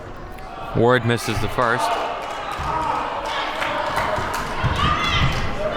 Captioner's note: audience clapping